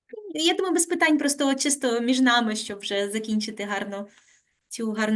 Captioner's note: speaking Ukrainian